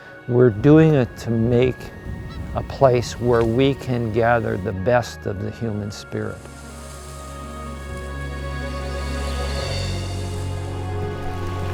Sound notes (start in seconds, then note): 6.3 grass rustling; 7.9 sweeping orchestral music